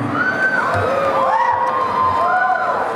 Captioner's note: applause and cheering